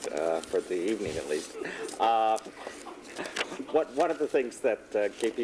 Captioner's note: laughs